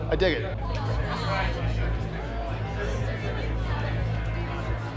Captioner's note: people chattering